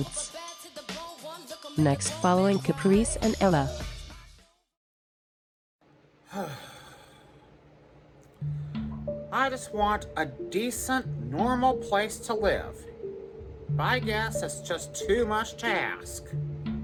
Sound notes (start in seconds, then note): 6.2 sighs